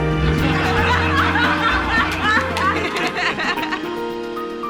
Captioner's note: laughter